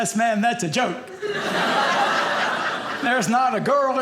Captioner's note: audience laughing